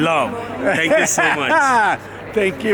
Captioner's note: host laughs